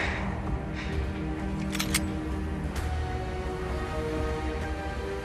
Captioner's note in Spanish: Sonido al cargar el arma